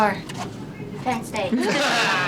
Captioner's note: laughter